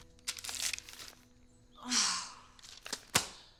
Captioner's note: sighs